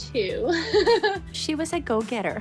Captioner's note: laughs